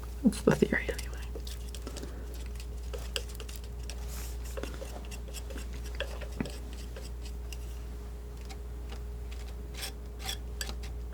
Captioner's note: crunching